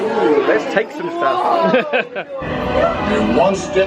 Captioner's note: laughs